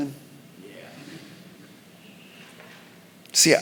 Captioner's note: congregation laughing